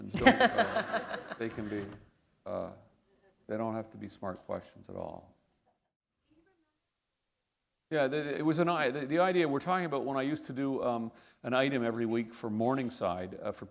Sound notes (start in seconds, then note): 0.1 laughter; 6.8 pause